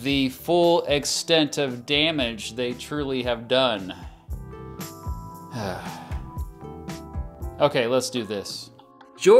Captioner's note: sigh